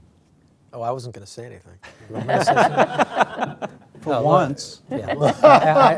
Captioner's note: laughter